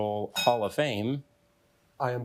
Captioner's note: bell dinging